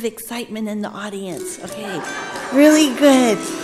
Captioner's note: audience laughing